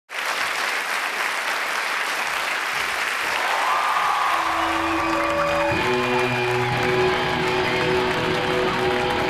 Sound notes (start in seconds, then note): 0.5 audience applauding; 4.7 rock guitar music